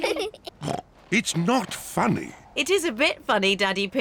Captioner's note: all laugh; snorts